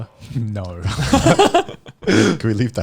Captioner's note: laughing